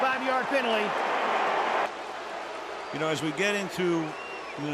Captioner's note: booing